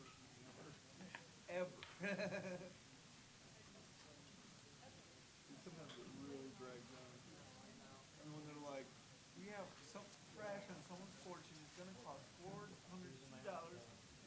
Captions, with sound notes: - I think this is the first time ever. - Ever. (laughing) - Sometimes it really drags on. - I know. - Everyone's like, "We have something fresh "and so important. "It's gonna cost $402.92,"